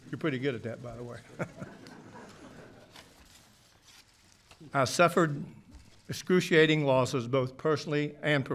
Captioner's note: laughter